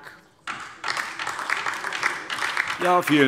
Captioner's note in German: Beifall DIE LINKE und vereinzelt SPD